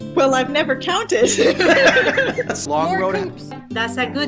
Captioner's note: laughing